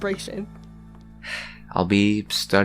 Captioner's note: sigh